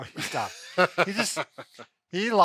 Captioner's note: laughing